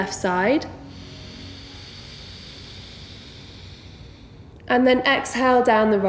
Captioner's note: heavy breathing